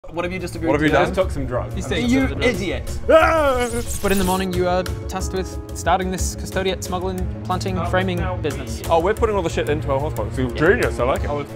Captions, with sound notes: What have you just agreed to do? He just took some drugs You idiot! *AAAAArgghghh* But in the morning you are tasked with starting this Custodiet smuggling, planting, framing business Oh we're putting all the shit into our horse pockets? Genius, I like it